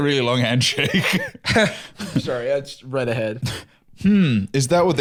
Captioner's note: laughs